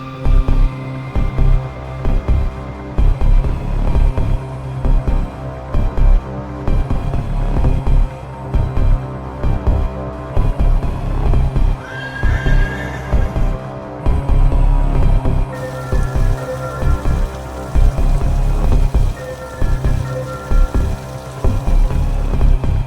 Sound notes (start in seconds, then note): 1.0 music picks back up to rhythmic, deep bass beats; 12.0 echoing, horse neighs in terror; 15.5 sounds of liquid pouring from vase